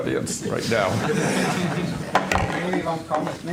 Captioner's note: laughter